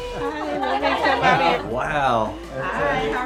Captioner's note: group chattering